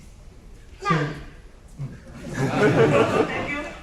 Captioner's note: laughter